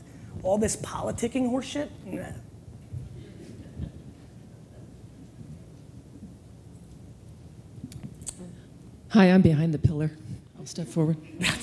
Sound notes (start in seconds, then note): 3.2 audience chuckles